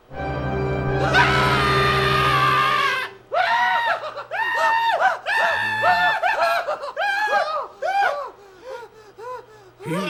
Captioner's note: screaming